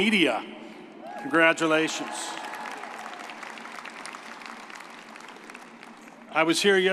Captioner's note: crowd cheering